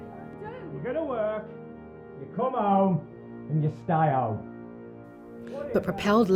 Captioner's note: arguing continues downstairs